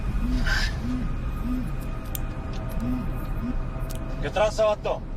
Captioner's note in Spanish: Vibra el celular